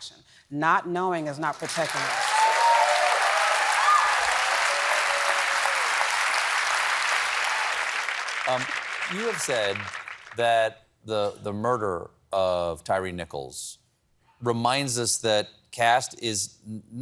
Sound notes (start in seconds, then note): 1.4 applause